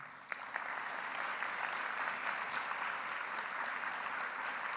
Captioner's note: audience applauding